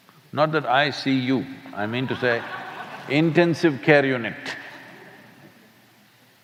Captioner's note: laughter